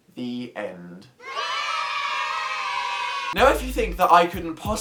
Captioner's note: children cheer